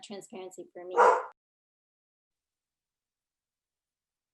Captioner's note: dog barks